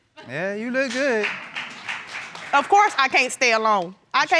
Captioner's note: applause